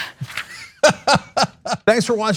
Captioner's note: laugh